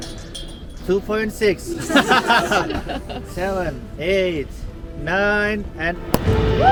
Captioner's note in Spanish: risas